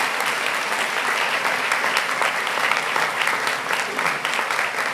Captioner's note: applause